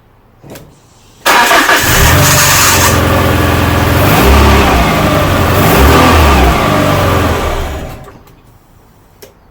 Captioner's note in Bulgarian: Двигателят стартира, след splutters след това премахва